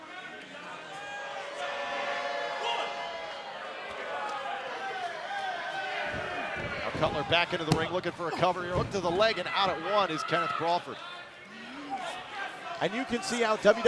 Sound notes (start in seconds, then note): 2.8 cheers and boos